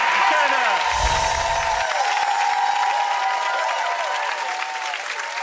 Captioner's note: cheering and clapping; sparkly music